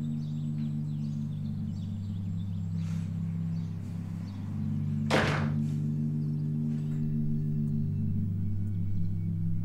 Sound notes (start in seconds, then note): 5.0 door shuts